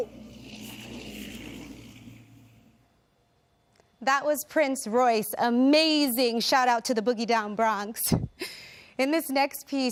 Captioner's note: speaking in spanish